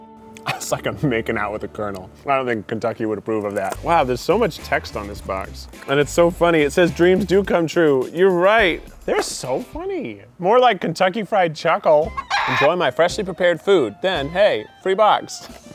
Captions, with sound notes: It's like I'm making out with the colonel. I don't think Kentucky would approve of that. Wow there's so much text on this box. And it's so funny, it says "dreams do come true." You're right! They're so funny, more like Kentucky Fried Chuckle! (chicken clucks) "Enjoy my freshly prepared food then hey, free box!"